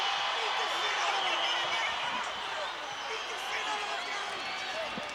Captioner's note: officials shouting